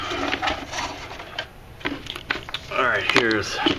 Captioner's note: shuffling noises